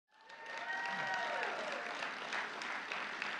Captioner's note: applause